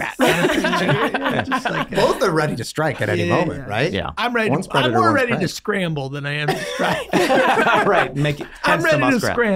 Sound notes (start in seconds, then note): 0.0 all laughing; 6.4 all laughing